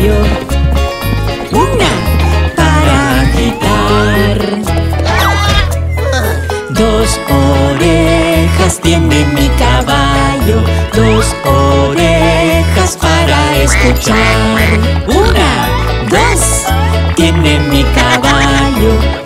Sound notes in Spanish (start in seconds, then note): 0.0 Música alegre; 13.5 Sonido de pato